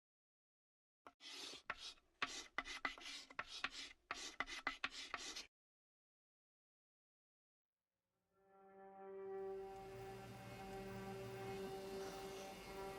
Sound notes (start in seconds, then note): 1.0 sound of chalk on board; 8.6 subtle piano music